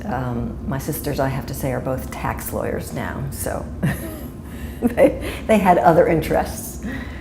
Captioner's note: chuckle